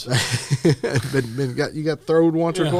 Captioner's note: laughter